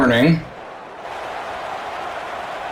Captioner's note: crowd cheering